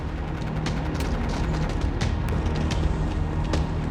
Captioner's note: machine gunfire